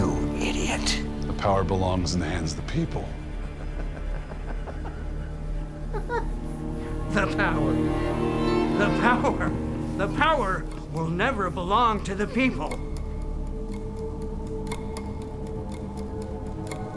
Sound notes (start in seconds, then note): 0.0 suspenseful music; 3.3 old man laughs; 13.8 dramatic music